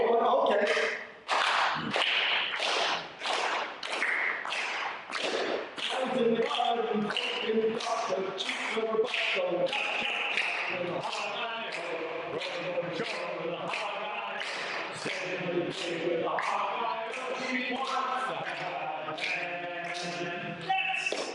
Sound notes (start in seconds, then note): 1.2 rhythmic clapping